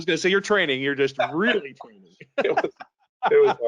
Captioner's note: laughing